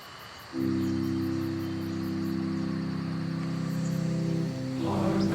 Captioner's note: birds chirping; dramatic music